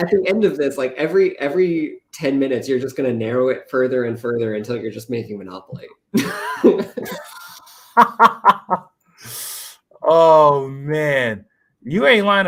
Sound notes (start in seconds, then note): 6.1 laughter